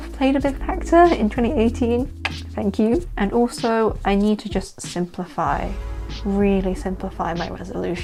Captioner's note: clicks tongue